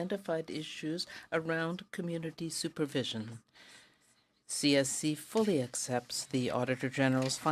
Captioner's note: speaking French